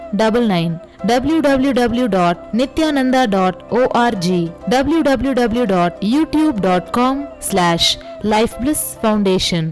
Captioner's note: hindi